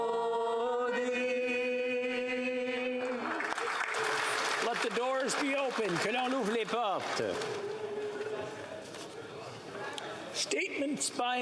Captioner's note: applause